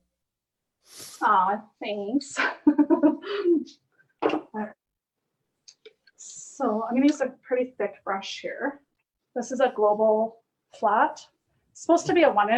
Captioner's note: giggles